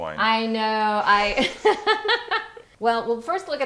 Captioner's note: laughing